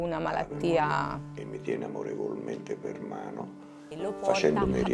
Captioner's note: voice outside: he always lovely hold my hand